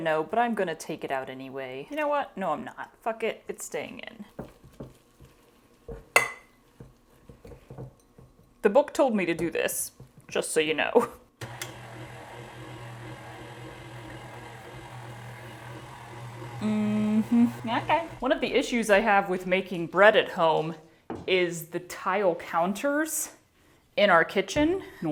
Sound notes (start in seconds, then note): 4.2 ooshy gooshy stirring sounds; 11.4 whirring noise